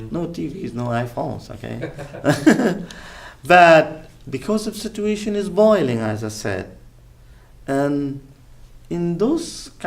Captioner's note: laughs